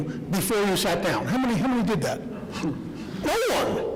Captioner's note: laughter